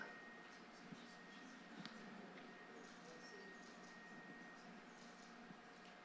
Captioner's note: chatter